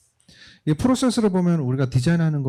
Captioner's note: speaking korean